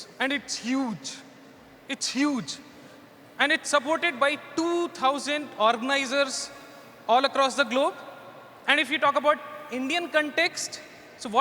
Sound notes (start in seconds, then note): none